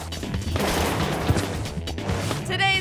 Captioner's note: body crashing